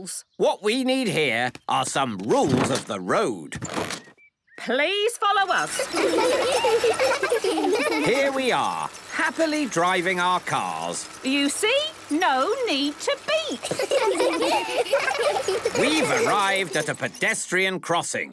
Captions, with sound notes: - What we need here are some rules of the road. - Please follow us. (laughter) - Here we are, happily driving our cars. - You see? No need to beep. (laughter) - We've arrived at a pedestrian crossing,